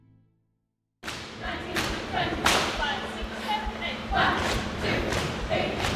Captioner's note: cheerleaders chanting